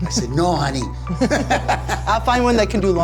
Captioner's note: everyone chuckling